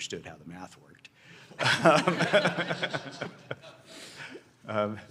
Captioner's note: laughter